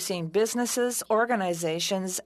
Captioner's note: speaking French